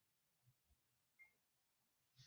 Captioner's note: none